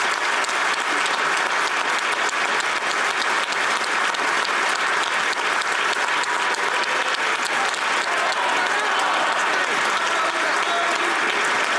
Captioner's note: applause